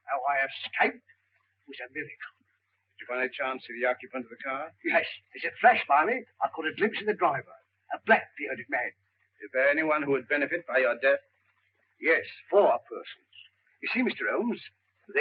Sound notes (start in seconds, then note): none